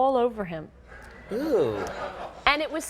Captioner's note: audience laughing